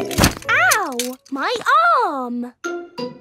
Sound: thumps

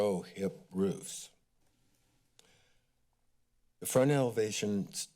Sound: silence

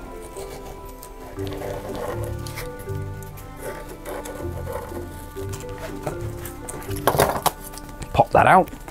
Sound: knife scratches and clatters

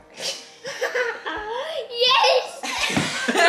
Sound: laughing; family laughing

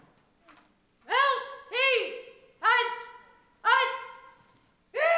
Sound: ROTC members chant

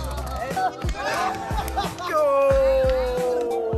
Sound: men cheering

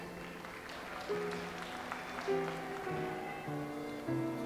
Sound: audience applauds

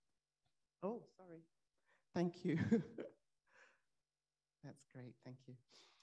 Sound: laughs

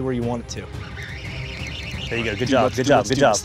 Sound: fishing rod whirring

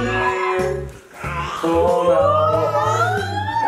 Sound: lava monster screeching

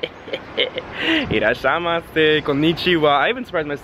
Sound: laughing; speaking Japanese

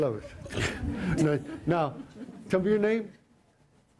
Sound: laughter

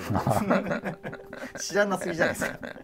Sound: laughing

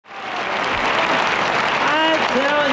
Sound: audience applauding

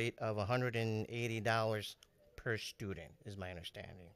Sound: none

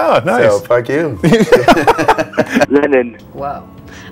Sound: laugh

